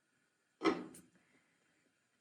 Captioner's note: pan clanging